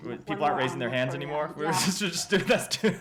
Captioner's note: laughter